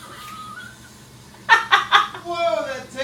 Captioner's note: laughing